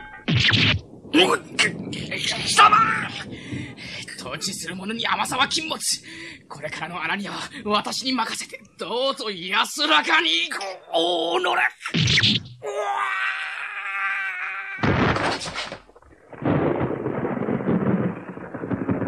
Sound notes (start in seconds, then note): 0.0 SFX: stab; 11.9 SFX: stab; 14.8 SFX: body falls to the ground; 16.4 SFX: thunder